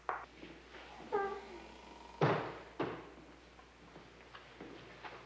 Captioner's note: door creaks